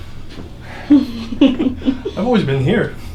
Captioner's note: laughing